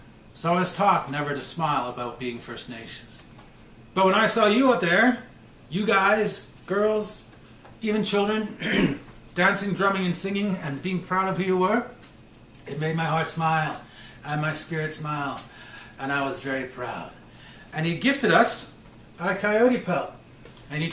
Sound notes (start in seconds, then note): 8.5 clears throat